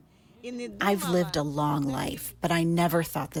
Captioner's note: through translator